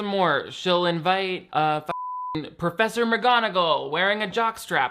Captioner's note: beep